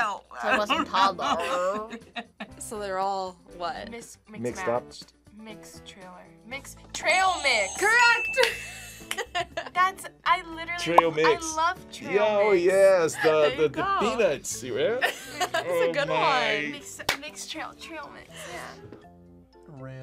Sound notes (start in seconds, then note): 0.0 laughs; 6.7 buzzer rings; 7.2 bell rings